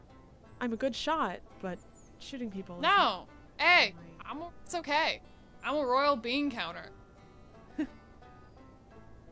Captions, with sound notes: I’m a good shot, but shooting people isn’t... no Hey it's, it's ok I'm a royal bean-counter. *confused laugh*